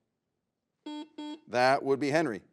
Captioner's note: buzzer buzzes